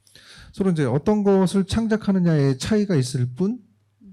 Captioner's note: speaking korean